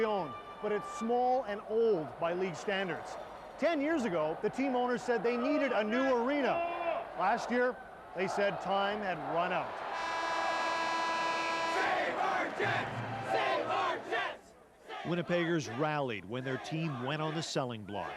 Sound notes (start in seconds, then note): 11.7 end of period buzzer